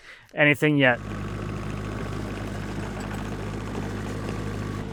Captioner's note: engine rumbling